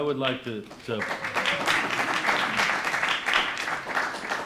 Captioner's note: audience applauds